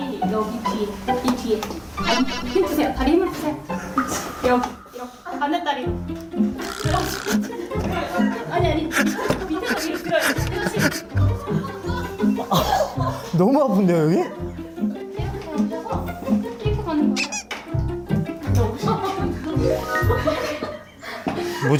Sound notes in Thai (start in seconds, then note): 3.9 อ๊ากกก